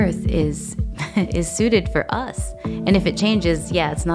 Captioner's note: chuckles